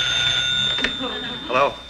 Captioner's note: telephone ringing